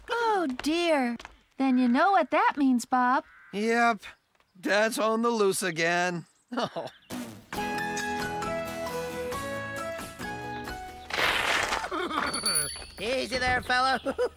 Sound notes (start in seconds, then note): 6.5 chuckles; 11.0 skidding Noise